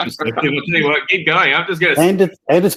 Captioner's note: laughter